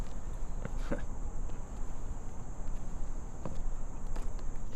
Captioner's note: Dogmouth chuckles